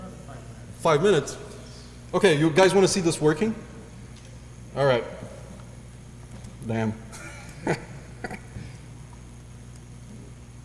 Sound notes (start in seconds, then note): 7.1 laugh